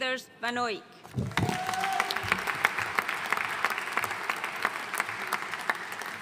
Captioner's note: audience cheering and applauding